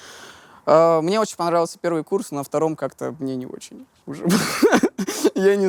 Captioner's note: bursts out laughing